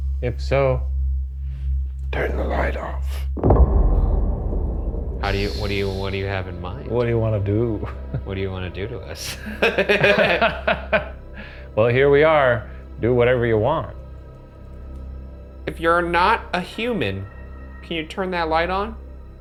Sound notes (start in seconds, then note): 3.5 eerie music; 9.2 both laugh